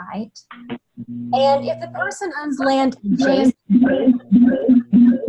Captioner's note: loud feedback noise